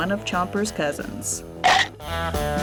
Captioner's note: upbeat music; teeth gnashing